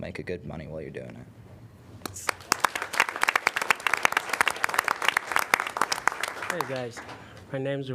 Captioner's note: applause